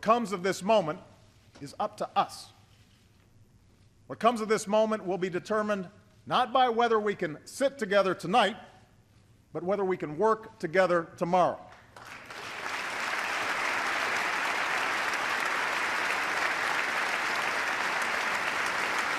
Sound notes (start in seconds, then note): 15.6 applause